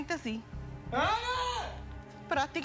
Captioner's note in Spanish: grito